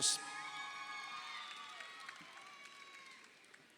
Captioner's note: crowd cheering